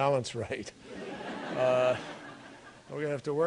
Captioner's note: laughter